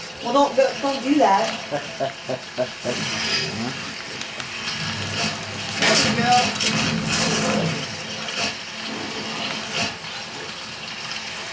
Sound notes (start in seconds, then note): 1.5 light chuckle